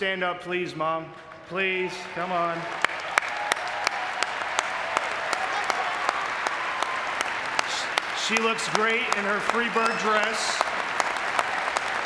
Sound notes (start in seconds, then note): 2.3 audience cheering